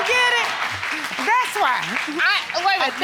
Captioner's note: all clapping